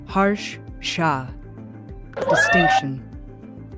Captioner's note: cheering